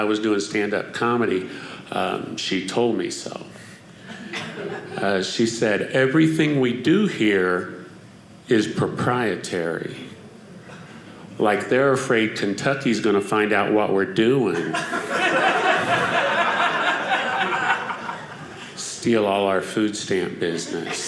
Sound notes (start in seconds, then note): 14.6 audience laughing